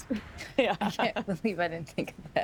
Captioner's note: laughs